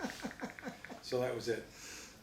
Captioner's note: laughs